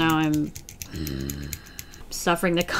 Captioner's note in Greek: γρύλισμα